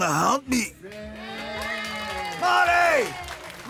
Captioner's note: cheering